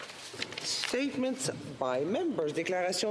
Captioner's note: speaking French